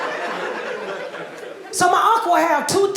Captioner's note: audience laughing